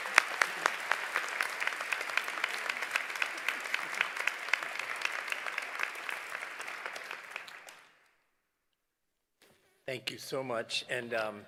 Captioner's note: applause